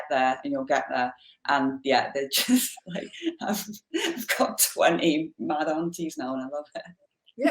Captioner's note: laughs